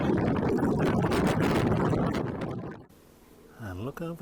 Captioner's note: gale force wind